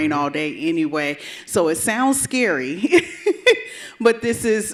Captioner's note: chuckles